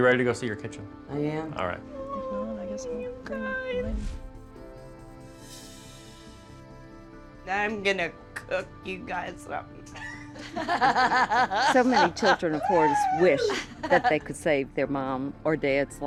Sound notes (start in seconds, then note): 9.9 laughing